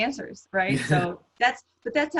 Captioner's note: laughs